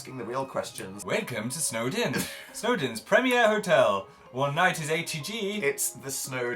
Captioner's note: smooth voice